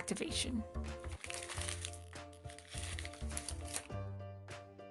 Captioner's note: paper crinkles